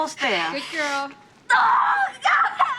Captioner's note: screams